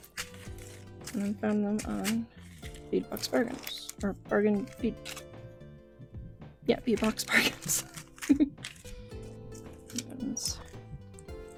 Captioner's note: laughing